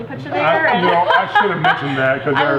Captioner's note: laughing